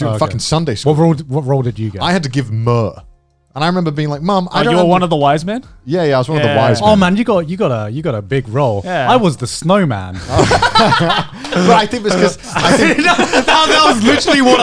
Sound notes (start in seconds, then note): 10.1 laughing; 12.9 chuckling